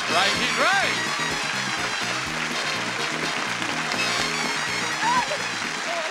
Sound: audience applauds; upbeat music

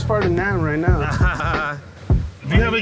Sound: laughs

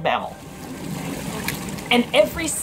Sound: background water noise; background music; sea otter cracking into shell

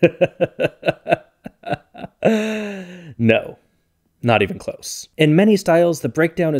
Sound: laughs

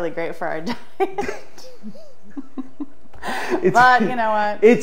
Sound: both laugh

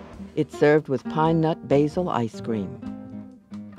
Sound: voiceover

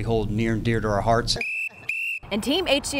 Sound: whistle blowing

